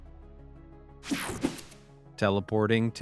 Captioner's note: screen buzzing